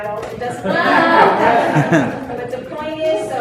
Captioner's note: laughter